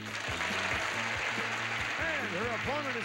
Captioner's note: audience applauding